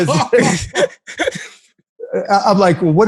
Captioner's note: laughter